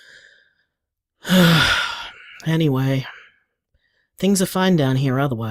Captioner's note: sighs